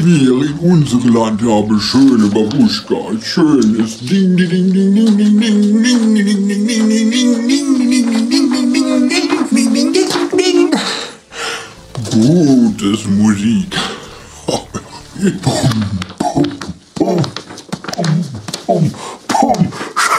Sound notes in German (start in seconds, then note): 8.7 wackel